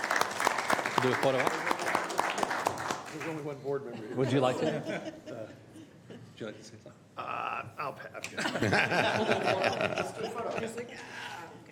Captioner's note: applause